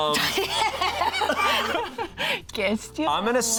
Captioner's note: all laughing